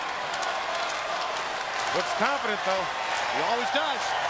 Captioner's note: applause